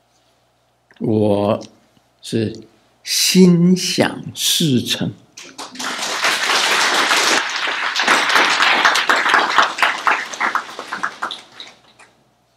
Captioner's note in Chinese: 眾鼓掌